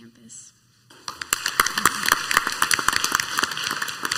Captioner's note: clapping